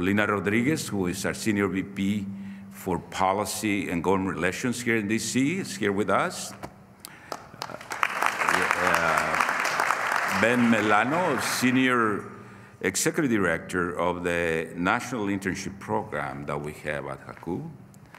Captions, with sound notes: Dr. Lena Rodriguez, who is our senior VP for policy and government relations here in D.C., is here with us. (Applause.) Ben Melano, senior executive director of the national internship program that we have at